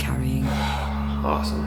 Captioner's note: sigh